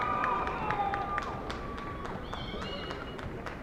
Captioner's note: applause